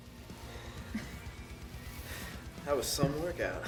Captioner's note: upbeat rock music; both laughs